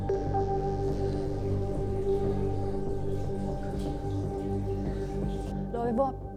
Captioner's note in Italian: rumore dell'acqua che scorre